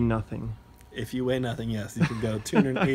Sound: laughs

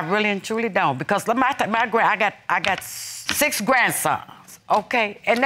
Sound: stuttering

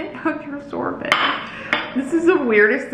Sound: plate clacks

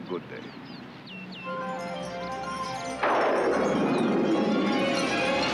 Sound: thunder cracks

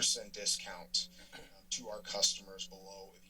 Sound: clears throat

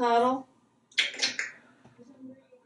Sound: smacking sounds

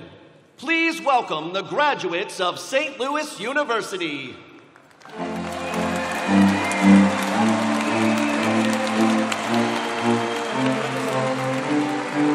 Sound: cheers and applause

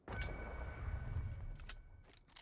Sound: none

